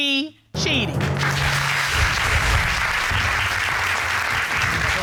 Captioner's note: dramatic music playing; audience applauding